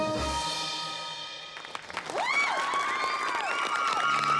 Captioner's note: applause and cheering